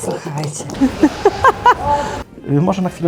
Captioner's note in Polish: śmiech